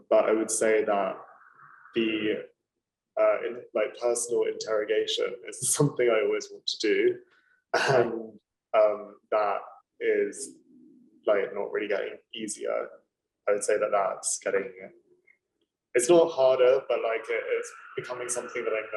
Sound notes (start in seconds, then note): 7.8 chuckling